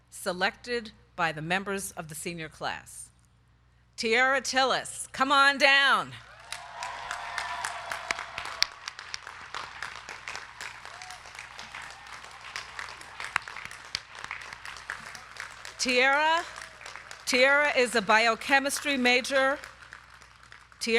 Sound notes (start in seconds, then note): 6.7 crowd cheering; 6.7 crowd clapping